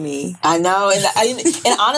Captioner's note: women chuckling